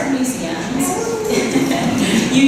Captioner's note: laughs